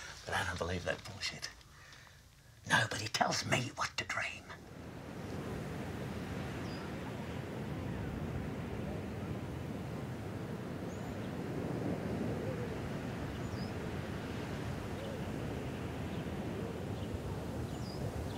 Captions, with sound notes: I don't believe that bullshit, nobody tells me what to dream. (ocean crashes)